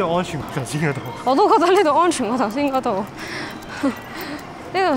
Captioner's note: nervous laughter